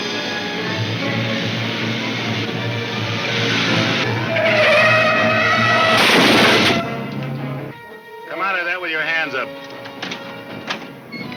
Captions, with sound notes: (exciting orchestra music) (tires squealing) (crashing) - Come outta there with your hands up.